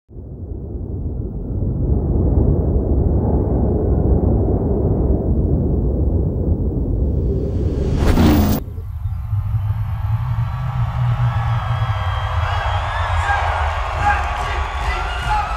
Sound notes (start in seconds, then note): 0.7 deep rumbling; 9.0 crowd cheering